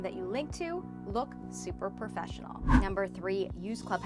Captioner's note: air whooshes